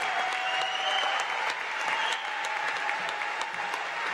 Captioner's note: applause